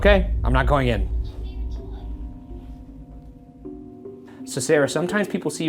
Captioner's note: BooBuddy faintly speaking